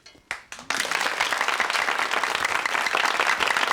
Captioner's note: audience clapping